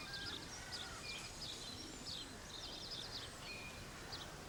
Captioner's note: crow croaking